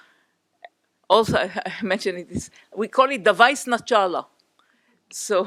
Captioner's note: non-english speech